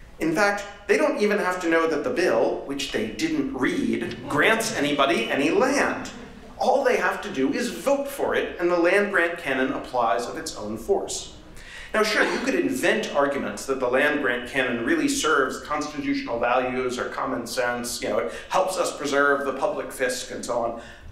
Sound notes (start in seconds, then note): 5.9 laughter